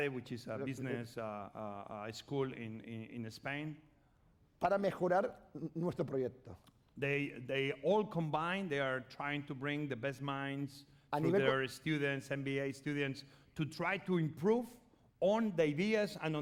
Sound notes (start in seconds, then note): 5.3 speaking spanish